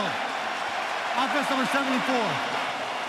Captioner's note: cheering